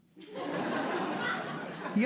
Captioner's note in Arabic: ضحك